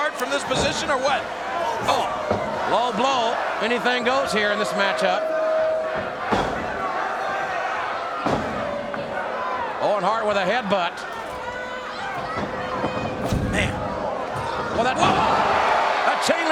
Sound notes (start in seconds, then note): 6.2 blow thuds; 15.0 body thuds